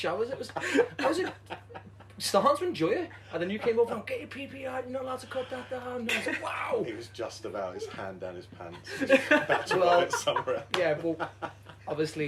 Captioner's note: laughter